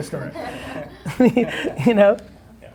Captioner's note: laughing